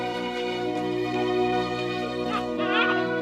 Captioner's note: baby cooing